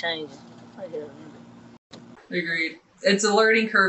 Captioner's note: mumbling